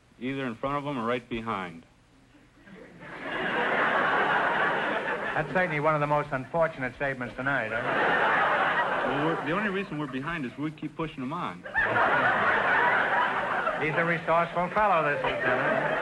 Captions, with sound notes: Either in front of them or right behind. (audience laughter) - That is certainly one of the most unfortunate statements tonight. (audience laughter) - The only reason we're behind is we keep pushing them on. (audience laughter) - He's a resourceful fellow this guy.